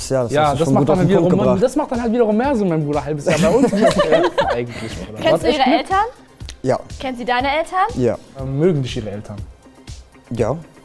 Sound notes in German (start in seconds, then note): 3.2 Gemurmel, Lachen